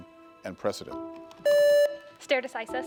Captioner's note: contestant beeping